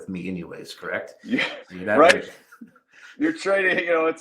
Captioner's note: chuckles